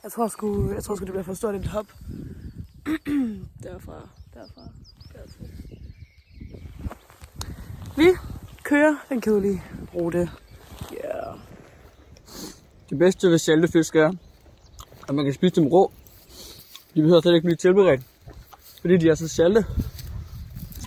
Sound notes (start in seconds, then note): 14.4 chewing